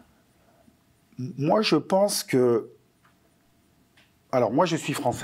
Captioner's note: non-english speech